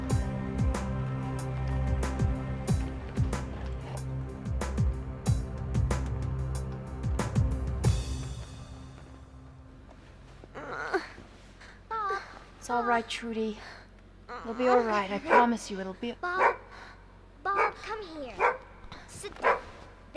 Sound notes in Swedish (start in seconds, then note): 10.4 stönande; 16.3 hund skäller